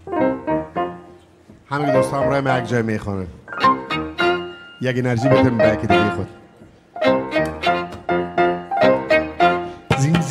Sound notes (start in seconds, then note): 0.3 pleasant piano music; 1.8 speaking in a language other than English; 7.1 upbeat instrumental music; 10.0 singing in a language other than English